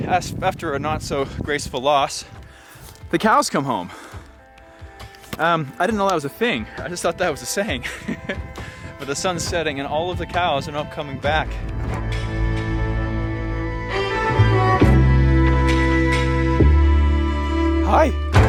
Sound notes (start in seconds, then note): 7.8 laughs; 13.8 dramatic music